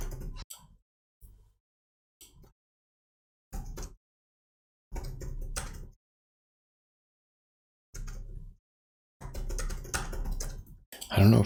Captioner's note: blank Audio